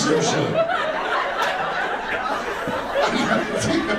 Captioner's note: audience laughs